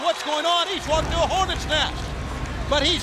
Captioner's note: crowd cheering